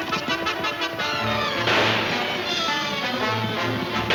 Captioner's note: guns firing